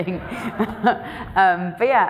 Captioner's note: everyone laughing